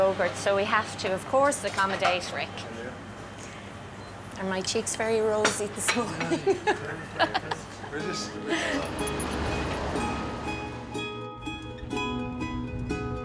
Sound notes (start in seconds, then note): 6.4 she laughs; 9.5 traffic noise